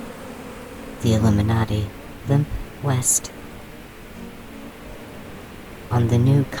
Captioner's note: the frenzied swarm settles